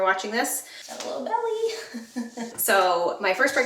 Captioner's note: chuckles